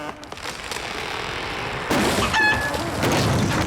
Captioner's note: wood creaking; wood thudding